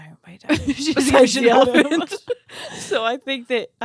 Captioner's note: laughing together